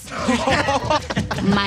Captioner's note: Hellfire Club members laughing